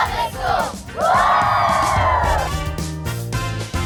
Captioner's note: all whoop